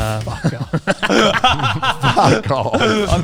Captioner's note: laughs loudly